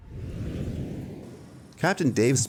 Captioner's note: whooshing